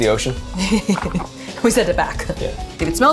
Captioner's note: chuckling